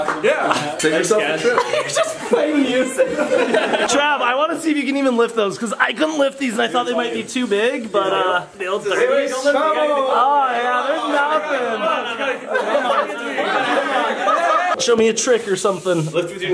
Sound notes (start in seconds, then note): 1.3 laughing